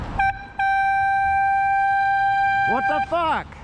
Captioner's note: air horn